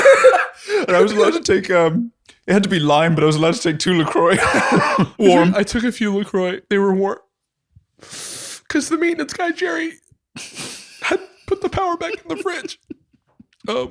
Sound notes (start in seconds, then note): 0.0 laughter; 8.0 sniffs